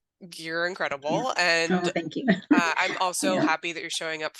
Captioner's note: laughs